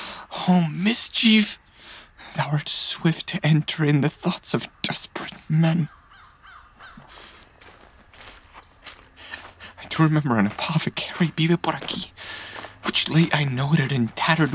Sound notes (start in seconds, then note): 7.5 footfall